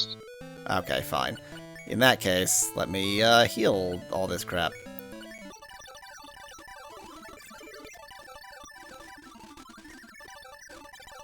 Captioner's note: awkward silence